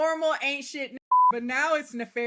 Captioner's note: beep